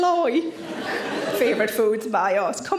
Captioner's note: audience laughing